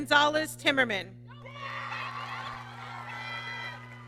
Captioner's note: applause